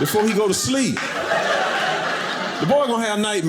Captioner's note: audience laughing